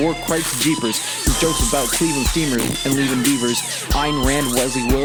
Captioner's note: pfft